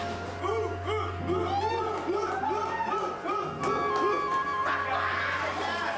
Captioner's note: chanting